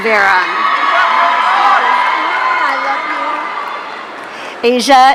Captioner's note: audience cheering